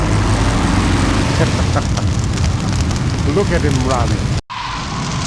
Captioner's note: laughs